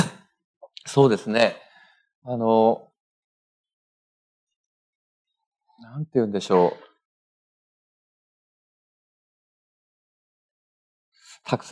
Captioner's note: speaking japanese